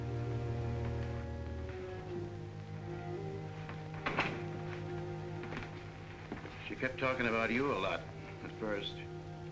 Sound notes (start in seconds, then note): 0.0 somber music; 3.9 door closes